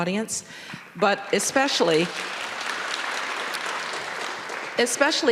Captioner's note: audience applauding